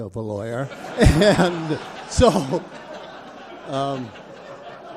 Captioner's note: audience applauds